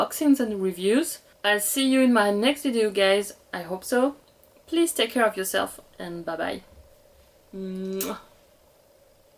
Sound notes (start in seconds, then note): 7.7 kiss